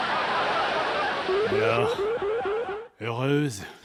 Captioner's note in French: bruitages comiques; rires pré-enregistrés; bruitages comiques